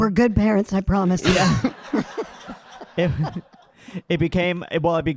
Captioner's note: audience laughing